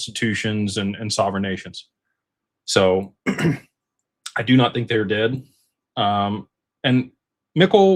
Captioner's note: clears throat and cough